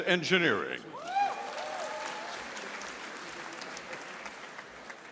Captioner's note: audience applauding